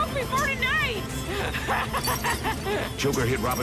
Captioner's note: laughing